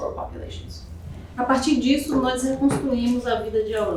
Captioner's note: speaking portuguese